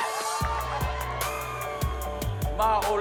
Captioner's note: cheering fades